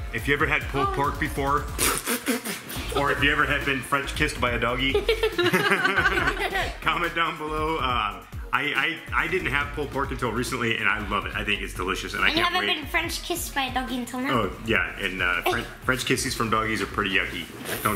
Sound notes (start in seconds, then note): 1.6 spitting; 4.9 laughing